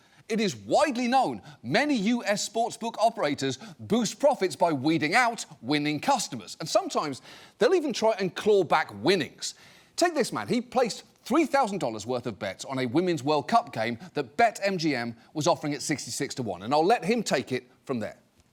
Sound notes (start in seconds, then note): none